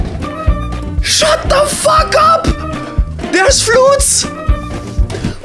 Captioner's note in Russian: что-то на восхищенном немецком